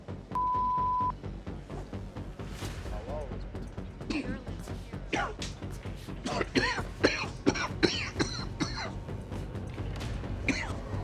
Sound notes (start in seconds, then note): 0.2 Butcher swears; 0.2 ominous music; 6.2 Butcher coughing